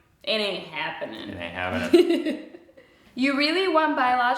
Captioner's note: laughs